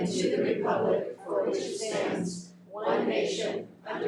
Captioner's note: none